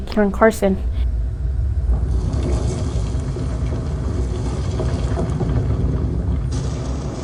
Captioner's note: shaking and rumbling; explosion